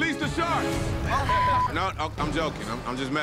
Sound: beep

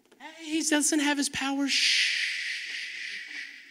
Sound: makes shushing sound

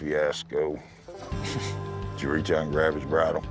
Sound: blows out breath

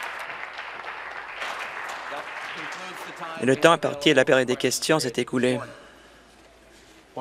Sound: applause

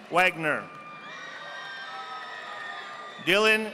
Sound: audience applauding

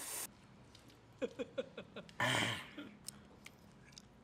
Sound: laughs

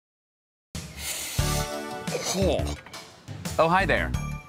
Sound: sniffs

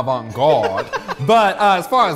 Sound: laughs

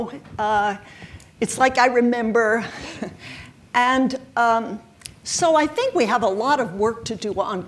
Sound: chuckles

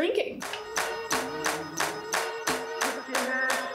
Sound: group clapping; upbeat hip hop music

